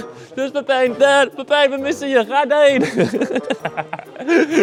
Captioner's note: haha